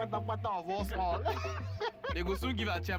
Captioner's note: laughing